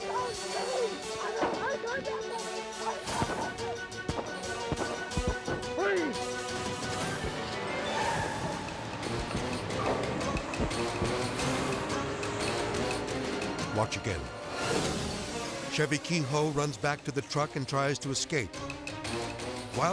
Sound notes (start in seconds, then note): 2.7 suspenseful music; 7.4 car skidding off; 7.4 suspenseful music; 8.3 dramatic music; 10.1 shots firing; 14.8 dramatic music; 14.8 dramatic whoosh; 18.3 suspenseful music